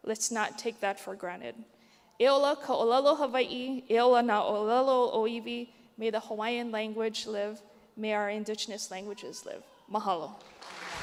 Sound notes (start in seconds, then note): 2.2 speaks native language